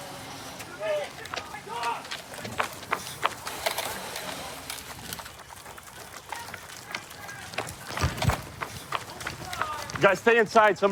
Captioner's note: shouting